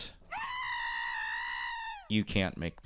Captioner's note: the goat screams